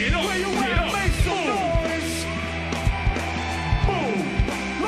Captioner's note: loud cheering